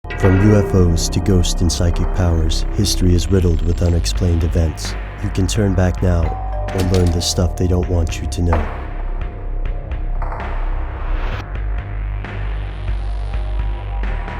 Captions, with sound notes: - [Voiceover] From UFOs to ghosts and psychic powers, history is riddled with unexplained events. You can turn back now or learn the stuff they don't want you to know. (ominous music)